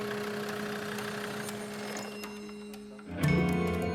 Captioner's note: engine turns off; suspenseful music